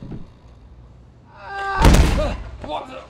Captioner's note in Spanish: grita